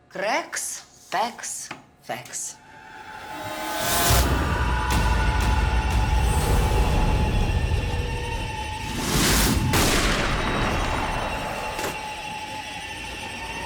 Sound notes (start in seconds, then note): 3.8 eerie music; 9.7 gunshot